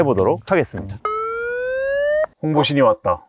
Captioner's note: vrrrrrrrrrrrrr